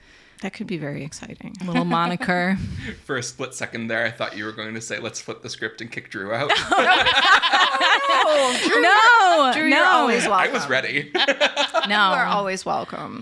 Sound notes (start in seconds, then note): 6.4 group laughs; 11.9 laughs